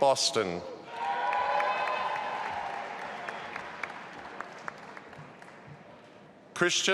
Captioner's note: audience applauding and cheering